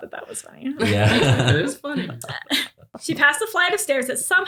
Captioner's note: laughter